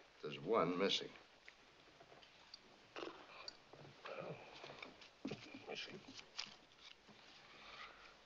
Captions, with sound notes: There's one missing. [ Flaps Lips ] I don't Know if somethings missing.